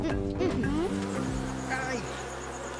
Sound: insects buzzing

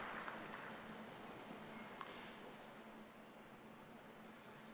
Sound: cheers and applause

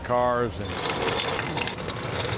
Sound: metallic rattling

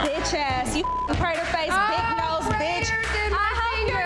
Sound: beep

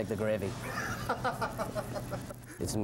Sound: laughter

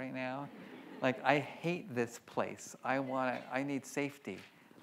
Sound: audience laughs

